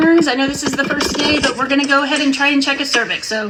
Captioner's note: box cluttering